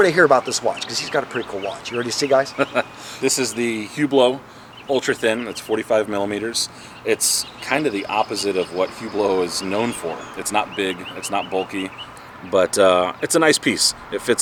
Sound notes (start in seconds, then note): 3.6 laughs